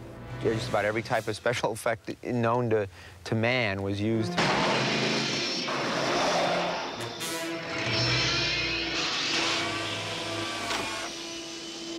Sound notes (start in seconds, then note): 4.3 engine revs; 7.8 whirring